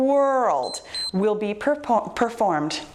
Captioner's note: timer beeps